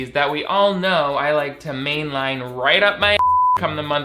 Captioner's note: beep